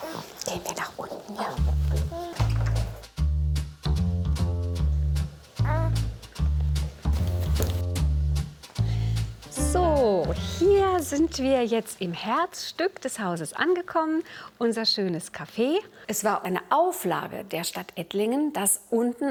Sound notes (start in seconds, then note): 5.6 baby noises